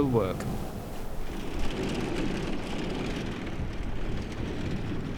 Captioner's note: truck rumbles